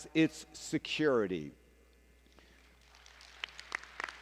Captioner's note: applause